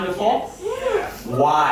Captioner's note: audience says yes